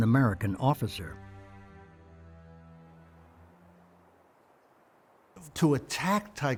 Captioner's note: wind sound